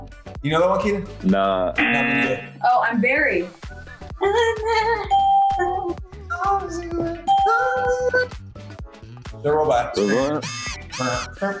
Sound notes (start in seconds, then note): 3.9 hums; 5.1 ding; 9.9 electronic noises